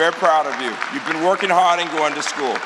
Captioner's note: applause